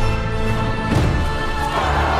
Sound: thunder crashes; hands thump on the beat; crowd roars, music continues

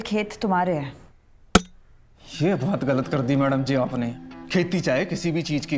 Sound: thud on ground

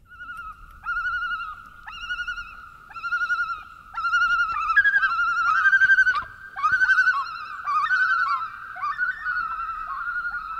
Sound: multiple loons calling and echoing

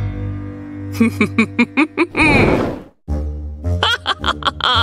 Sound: evil laughter

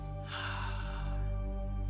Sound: sighs

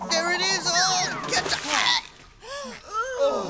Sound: gasp

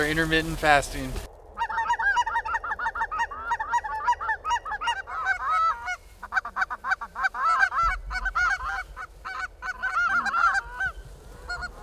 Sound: goose calls

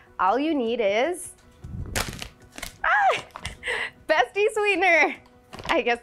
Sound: bag crinkles

